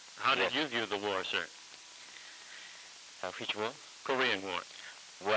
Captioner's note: none